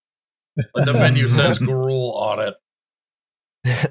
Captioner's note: laughter